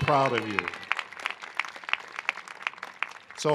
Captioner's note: applause